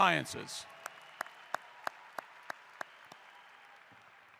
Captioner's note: applause